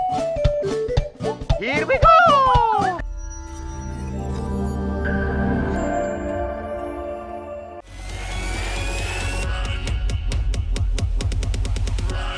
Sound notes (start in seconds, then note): 1.9 Mario Voice